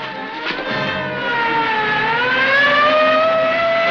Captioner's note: sirens